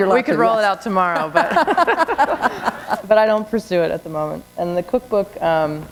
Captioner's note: laughter